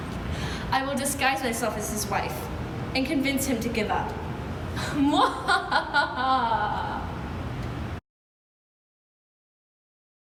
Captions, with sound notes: I will disguise myself as his wife, and convince Zuma to give up. [evil laugh]